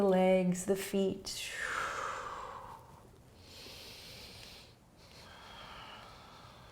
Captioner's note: exhaling and inhaling